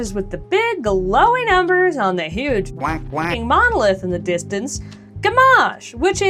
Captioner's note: quacking